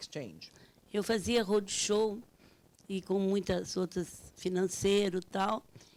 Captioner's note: speaking Portuguese